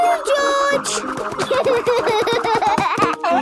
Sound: giggling; snorting

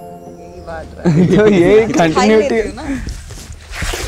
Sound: pages flipping

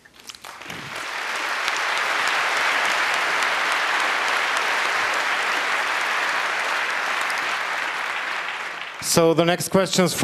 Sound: applause

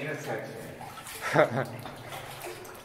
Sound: laughing

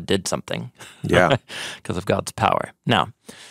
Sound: chuckling

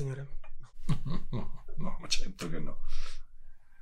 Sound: laugh

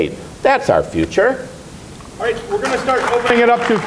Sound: applause

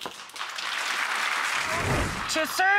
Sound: audience applauding

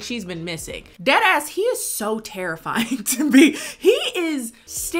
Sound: laughs

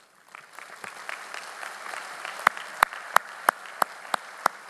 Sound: audience applauding

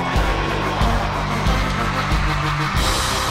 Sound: wild cheering

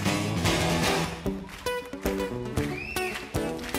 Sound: crowd clapping

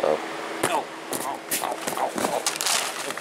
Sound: groaning and crashing to ground

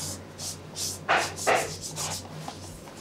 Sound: stroking, distant knocking

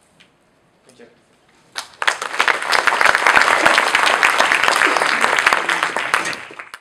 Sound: people applauding

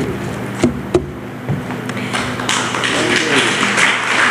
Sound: applause

